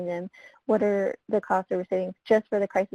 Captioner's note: voice muffled